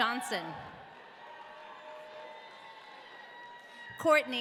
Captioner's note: audience cheering